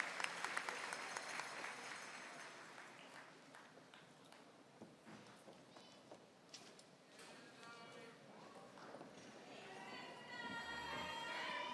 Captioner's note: applause